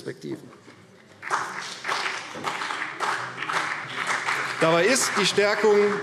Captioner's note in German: Beifall CDU und BÜNDNIS 90/DIE GRÜNEN